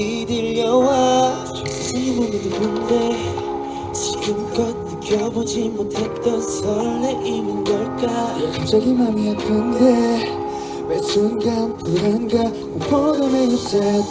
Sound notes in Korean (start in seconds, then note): none